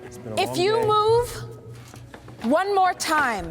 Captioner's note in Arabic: يتمتم كارتر